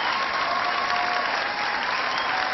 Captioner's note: cheering